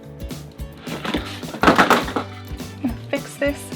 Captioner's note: rattling